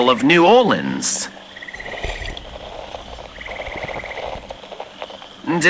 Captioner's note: drinking fx, gulping fx